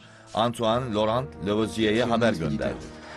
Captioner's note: men speaking French